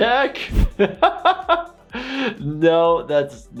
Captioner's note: laughs